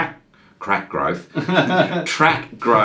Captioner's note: laughs